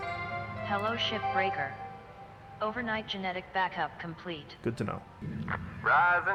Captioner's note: Hab Voice